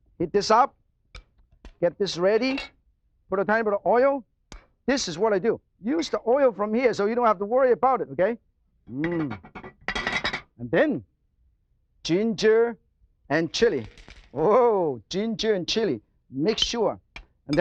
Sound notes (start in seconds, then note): 13.8 oil crackles